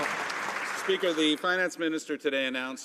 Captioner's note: some Applause